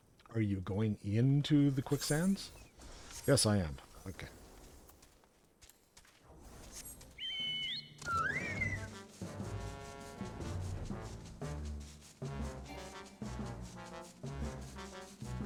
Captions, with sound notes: Are you going into the Quicksands? Yes, I am, okay. (whistling) (upbeat music) (upbeat music)